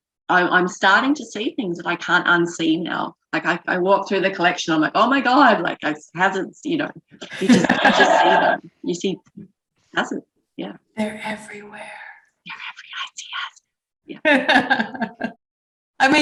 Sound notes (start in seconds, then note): 7.2 laughter; 10.9 whispers; 14.2 laughs